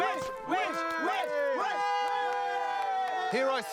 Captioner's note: villagers cheer